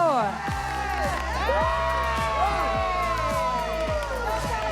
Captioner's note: everyone cheering